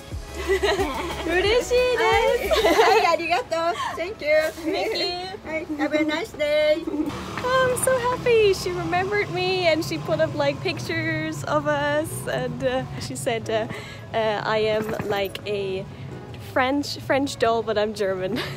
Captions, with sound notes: [LAUGHTER] [JAPANESE] Thank you! Have a nice day! I'm so happy! She remembered me and she put up, like, pictures of us and, er, she said, er... ...I am like a... ...French doll but I'm German